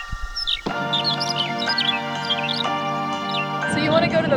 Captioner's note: mystery bird call; music intensifies